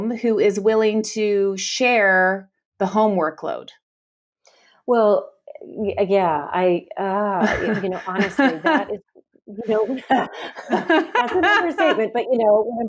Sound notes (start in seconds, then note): 7.4 laughs; 9.6 both laugh